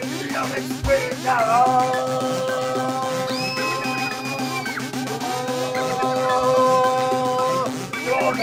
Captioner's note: yells and screams